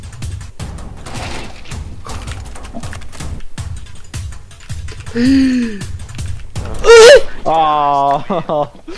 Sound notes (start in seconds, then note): 5.1 gasp; 6.6 death cry